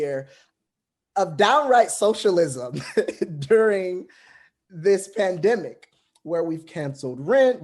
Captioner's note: laughs